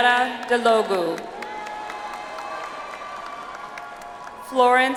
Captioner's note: audience applauds